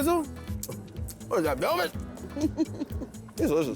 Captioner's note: laughs